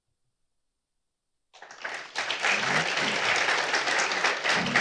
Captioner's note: applause